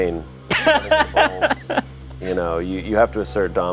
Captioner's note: laughs